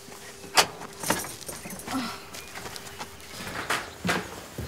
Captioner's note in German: Leonie seufzt